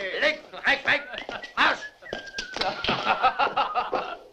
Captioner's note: Dusty whistling